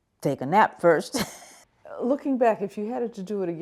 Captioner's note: laughs